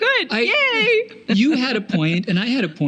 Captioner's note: laughing